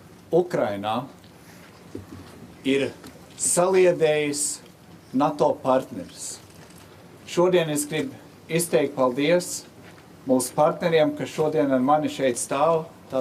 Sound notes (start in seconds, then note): 2.6 speaking Alternate Language